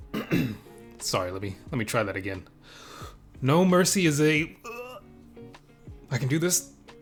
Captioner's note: gag; gag